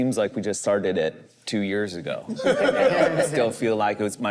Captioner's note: group laughs